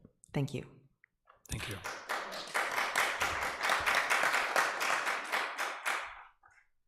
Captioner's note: audience applause